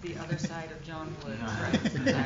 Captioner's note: laughter